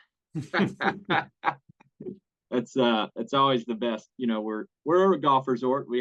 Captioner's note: laugh